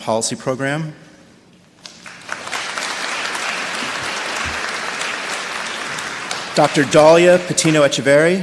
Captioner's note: applause